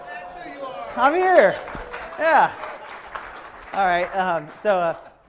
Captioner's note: audience applause